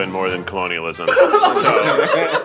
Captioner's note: everyone laughing